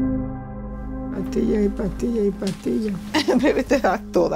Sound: Spanish

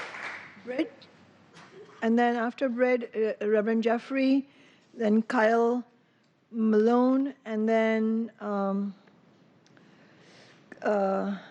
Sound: applause

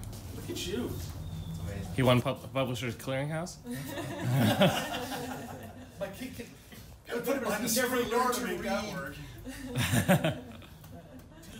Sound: laughter

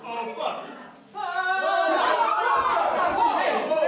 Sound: New Yorkers cry out in fear

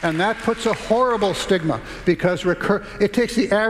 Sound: applause

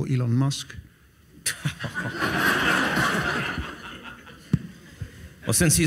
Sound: audience laughs

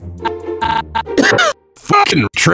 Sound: Francis coughs

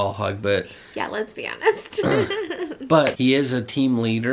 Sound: laughs

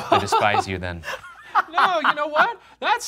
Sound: laughs

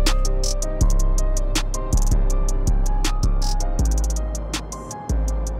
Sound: distant traffic

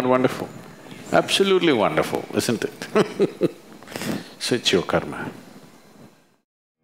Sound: laughs

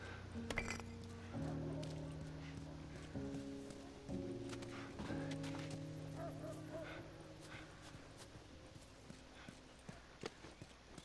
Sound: dogs barking

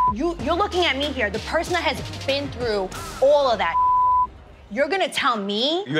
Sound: beep; beep

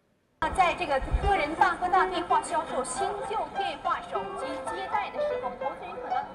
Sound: speaking in a foreign language

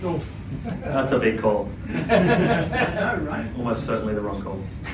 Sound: audience laughter

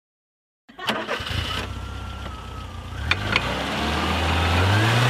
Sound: engine starts, revs up

